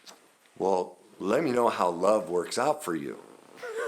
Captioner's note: laughs